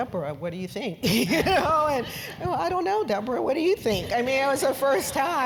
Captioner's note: laugh